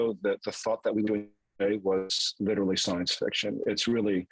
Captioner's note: voice cracks